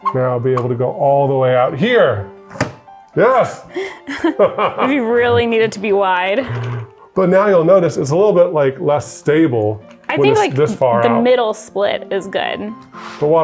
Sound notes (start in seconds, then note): 3.7 both laughing